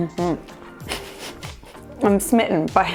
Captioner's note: laughs